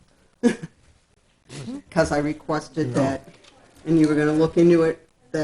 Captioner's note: laughs